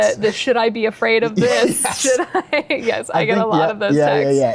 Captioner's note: both laugh